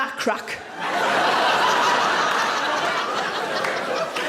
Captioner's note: audience laughing